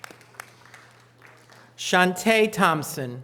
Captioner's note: audience applause